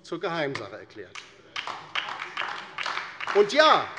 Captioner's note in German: Beifall DIE LINKE